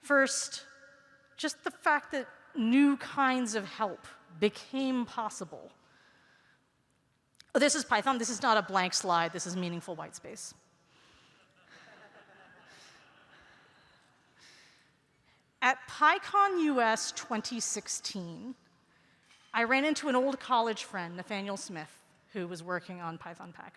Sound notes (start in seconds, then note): 14.2 laughter